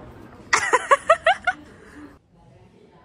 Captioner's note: crazy laughter